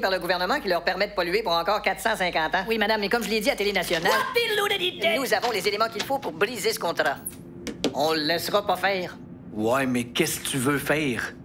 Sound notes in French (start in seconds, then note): 3.9 Elle chantonne